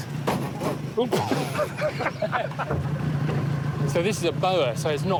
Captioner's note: both laughing